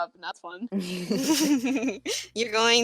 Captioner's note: low laughter